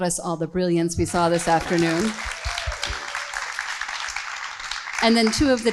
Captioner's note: group applauds